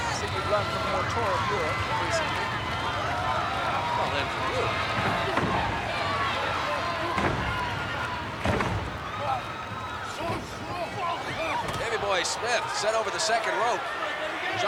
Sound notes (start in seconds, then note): 5.3 blows thudding; 5.3 wrestlers grunting